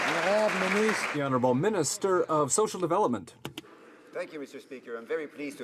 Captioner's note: some Applause